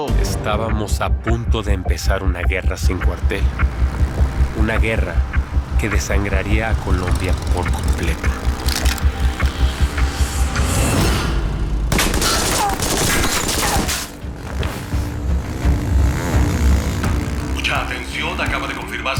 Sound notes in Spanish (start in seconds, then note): 8.8 Ruido de la moto; 11.8 Disparos; 13.8 Ruido de la moto; 17.5 Voz en la TV